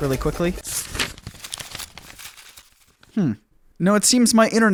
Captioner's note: papers rustling